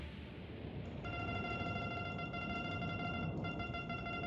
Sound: beeping

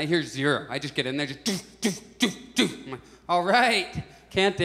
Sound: loud, consecutive noises

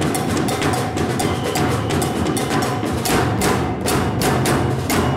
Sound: whistle blows

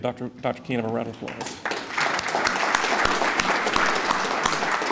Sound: applauding

